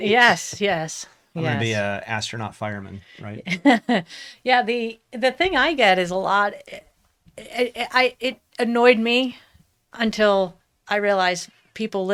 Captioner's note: laughs